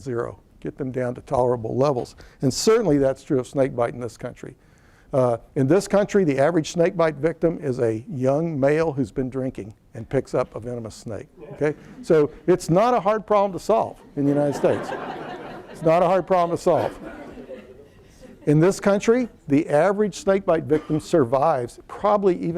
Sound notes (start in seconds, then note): 14.0 laughter